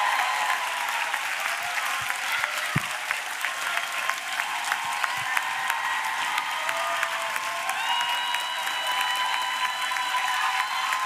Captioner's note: applause